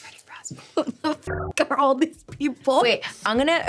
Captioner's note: laughing; buzzing